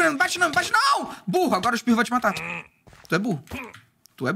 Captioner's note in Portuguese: som de pillager